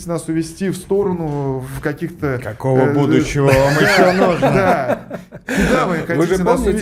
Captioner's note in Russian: смех